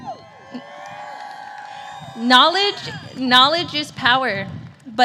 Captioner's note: cheers and applause